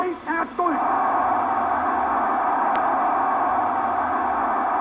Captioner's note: crowd cheering